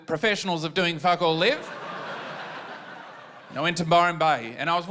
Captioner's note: laughter